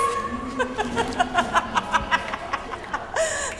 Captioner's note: laughing hysterically